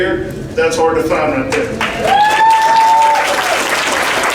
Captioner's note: applause